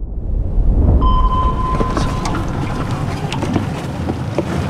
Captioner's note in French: Son d'un sonar